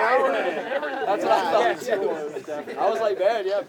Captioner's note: audience laughs